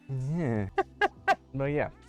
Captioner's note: chuckles